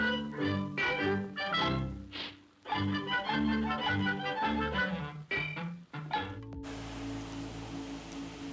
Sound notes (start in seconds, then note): 0.7 cartoon sounds; 0.7 cheerful music